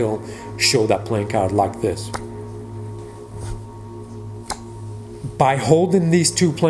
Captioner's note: cards flipping